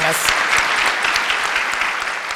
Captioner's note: applause